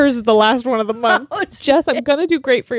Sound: laughs

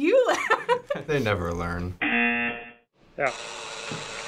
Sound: chuckles; buzzer; sensor buzzer buzzing

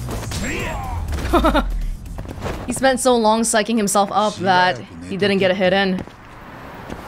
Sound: chuckles

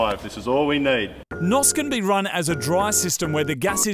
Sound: voice over

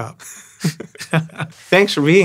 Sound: laughing

